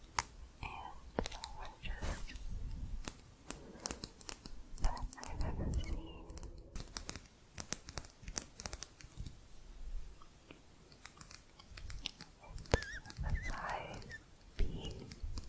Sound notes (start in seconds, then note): 7.1 quick tapping; 15.3 softer tapping